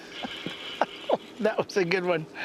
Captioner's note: laughter